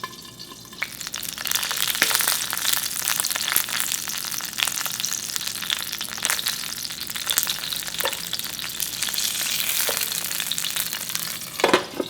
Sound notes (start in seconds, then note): 1.1 sizzling